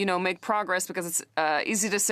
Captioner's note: speaking French